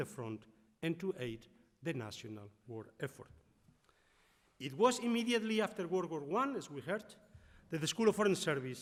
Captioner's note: none